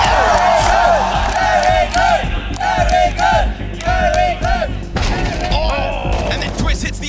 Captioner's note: crowd